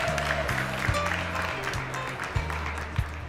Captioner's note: crowd cheering